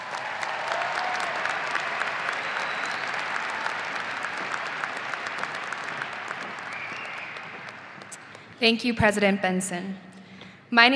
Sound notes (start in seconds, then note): 0.0 audience applauding